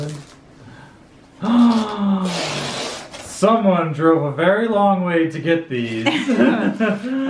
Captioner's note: gasp; both laugh